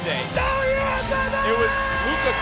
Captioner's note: yelling